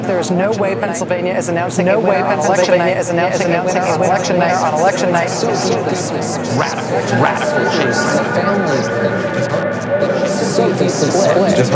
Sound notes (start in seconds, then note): 3.1 people chattering; 7.5 people chattering